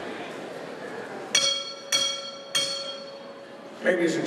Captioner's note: bell ringing